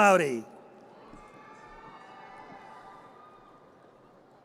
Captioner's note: audience cheers